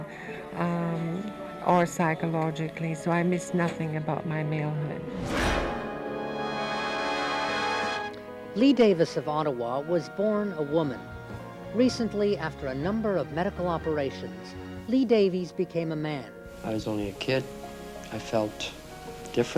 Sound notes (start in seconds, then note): 6.6 whoosh; 7.6 theme music